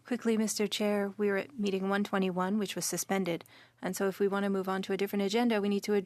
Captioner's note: speaking French